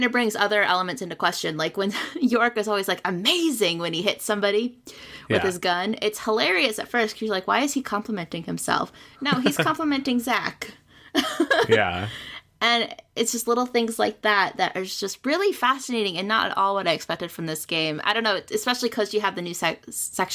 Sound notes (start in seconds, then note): 11.3 laughs